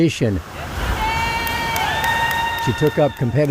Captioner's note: group cheering